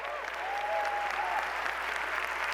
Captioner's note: applause